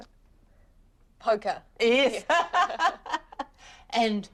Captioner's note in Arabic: تضحك